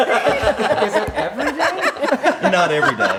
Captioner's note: laughs